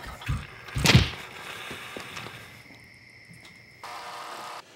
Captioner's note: booklets thunk